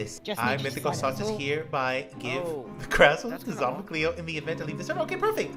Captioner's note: reading aloud